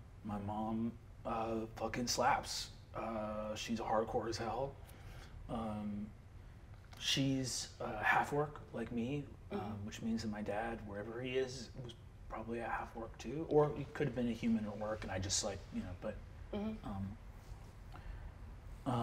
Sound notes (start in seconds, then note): none